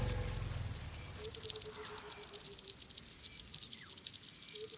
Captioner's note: birds calling in distance